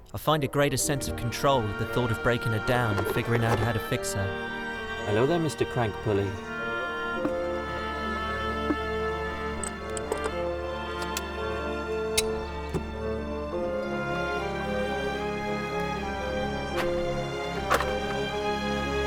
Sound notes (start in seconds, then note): 7.2 sounds of spark plugs popping out; 9.5 fuel injectors click out; 9.6 wrench wriggles on nut; 12.1 smacks wrench to loosen bolt; 17.5 sound of Valve Cover releasing after many years